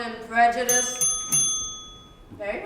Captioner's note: bell rings